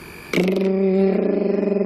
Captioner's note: imitates device